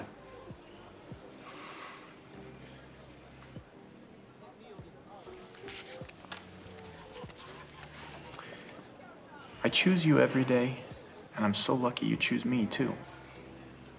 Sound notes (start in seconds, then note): none